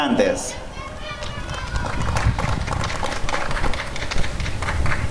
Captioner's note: applause and cheering